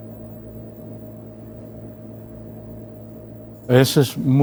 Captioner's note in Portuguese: som de ventilador